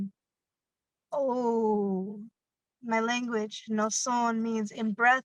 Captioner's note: speaking in a foreign language